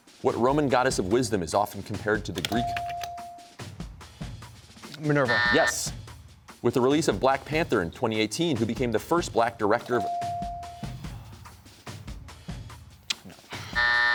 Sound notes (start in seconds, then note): 5.2 buzzer sounds; 13.0 clicks tongue; 13.2 sighs